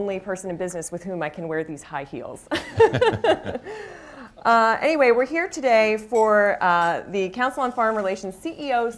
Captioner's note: laughs, laughter